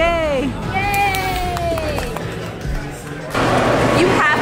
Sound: claps

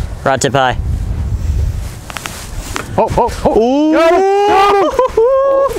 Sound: shouting in excitement

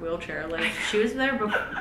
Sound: lauhgs

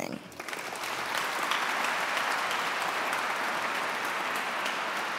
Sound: audience clapping

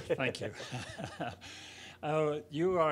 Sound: chuckling

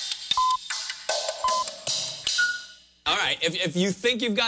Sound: beeping countdown

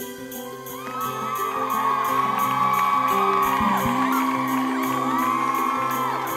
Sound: instrumental music; audience cheering

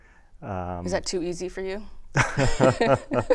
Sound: laughter

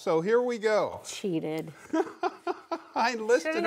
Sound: laughing

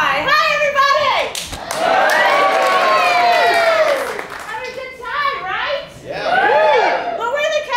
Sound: cheers

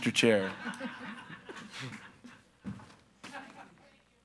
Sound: audience laughs

